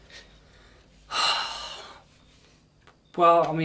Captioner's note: Gary sighs